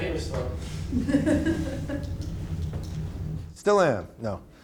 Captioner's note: woman laughing